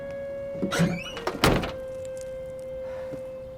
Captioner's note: trunk shuts